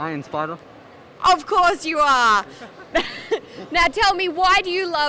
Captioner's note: laughs